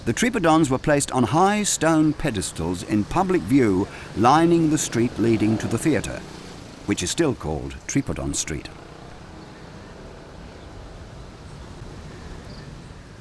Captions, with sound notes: The tripodons were placed on high stone pedestals in public view, lining the street leading to the theater, which is still called Tripodon Street. (traffic whooshing)